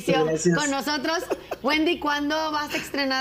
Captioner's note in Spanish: risas